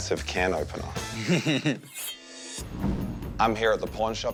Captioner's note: laughter